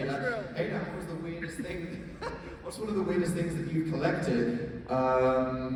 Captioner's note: laughs